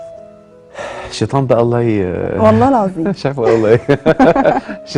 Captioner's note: laughs!